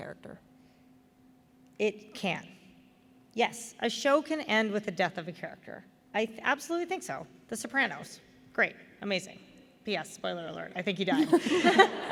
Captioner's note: laughter